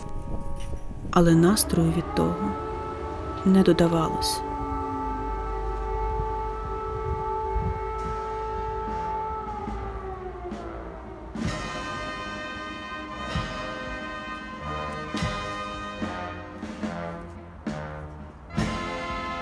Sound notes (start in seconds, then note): 6.2 air raid siren